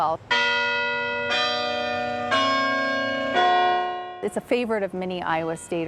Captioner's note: campanile bells